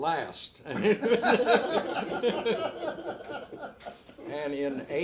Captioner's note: everyone laughs